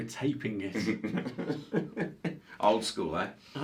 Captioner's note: both continue laughing